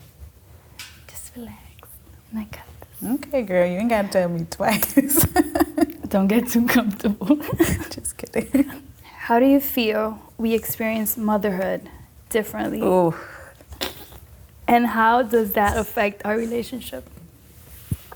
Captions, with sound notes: So, just relax, and I got this. - Okay girl, you ain't gotta tell me twice. - Don't get too comfortable. (laughing) Just kidding. - How do you feel we experienced motherhood differently and how does that affect our relationship?